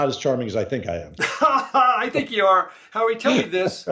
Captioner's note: laughs